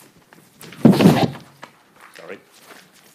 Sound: microphone booms

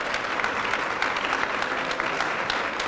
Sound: applause

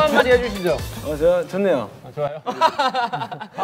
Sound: haha

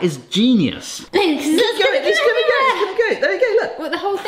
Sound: indistinct chatters

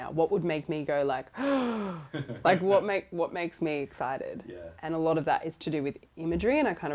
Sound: breath in

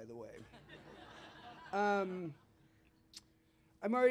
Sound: laughter

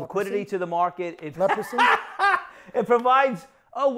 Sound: laughing

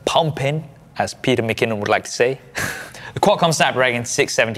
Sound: chuckles

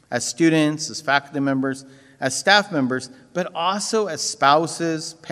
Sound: none

